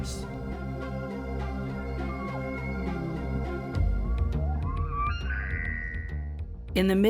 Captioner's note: elk bugle